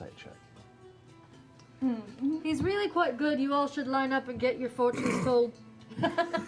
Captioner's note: deadpan; laughter